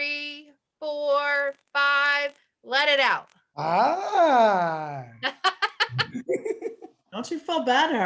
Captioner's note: laugh